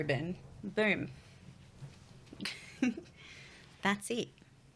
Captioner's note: laughs